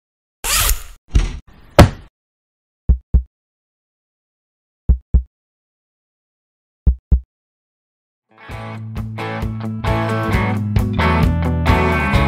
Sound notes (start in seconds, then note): 2.0 heartbeat